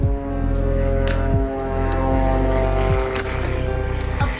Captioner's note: sound of a plane